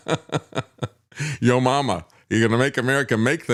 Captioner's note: laughs